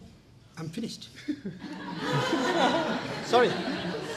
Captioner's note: laughter